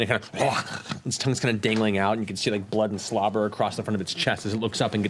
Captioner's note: growls